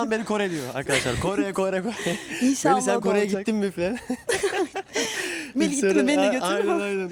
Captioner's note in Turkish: kahkaha